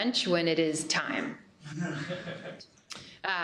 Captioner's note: laughter